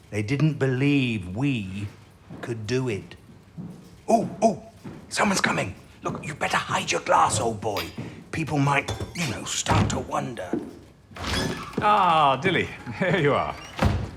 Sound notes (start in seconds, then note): 1.8 distant footsteps; 11.8 the door opens. Male footsteps